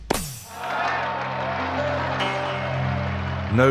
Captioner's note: crowd cheering